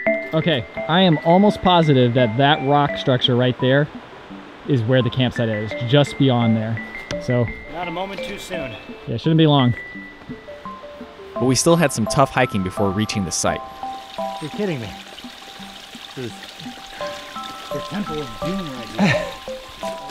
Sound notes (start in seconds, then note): 18.9 laughs